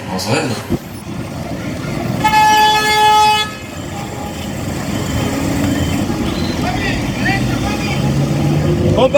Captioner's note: traffic noises